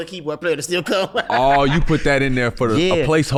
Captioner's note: laughs